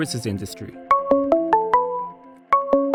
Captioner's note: ringtone